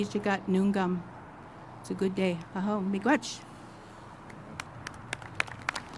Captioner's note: speaks Idigenous language; applause